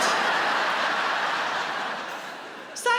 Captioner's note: audience laughs